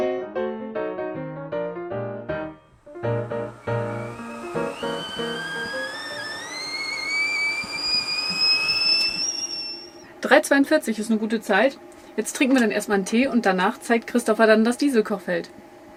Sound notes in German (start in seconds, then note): 2.8 Kessel pfeift